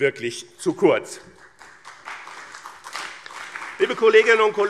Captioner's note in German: Beifall BÜNDNIS 90/DIE GRÜNEN und CDU